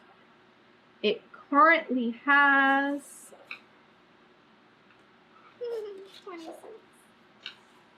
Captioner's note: laughs